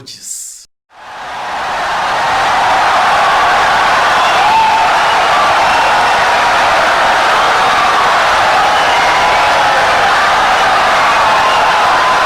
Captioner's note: wild applause and cheering for 17 seconds